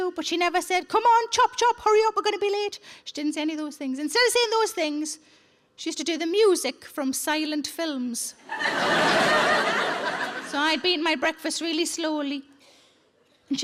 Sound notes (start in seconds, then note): 8.5 audience laughing